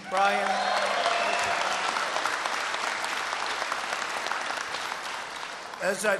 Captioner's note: applause